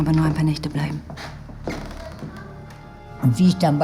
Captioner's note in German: Schritte und gedämpfte Stimmen